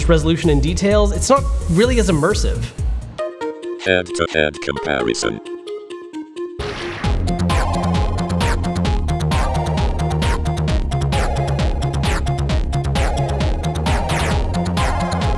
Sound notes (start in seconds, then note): 4.2 robotic Voice; 7.3 upbeat techno music